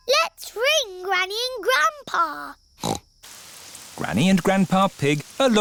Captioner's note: snorts